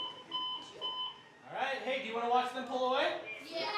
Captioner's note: machine beeping